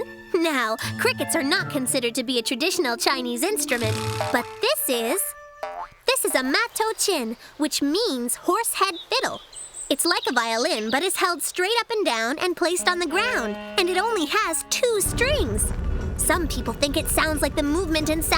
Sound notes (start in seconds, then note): none